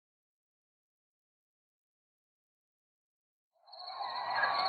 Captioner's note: silence; coyotes barking